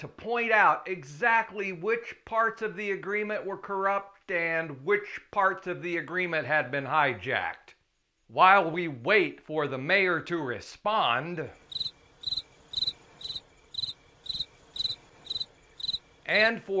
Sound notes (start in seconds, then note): 13.9 crickets Chirping